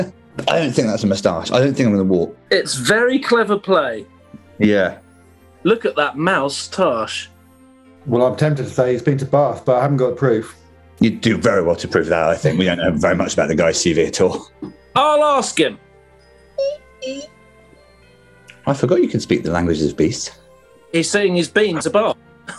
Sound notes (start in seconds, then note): 16.6 squeaks inquisitively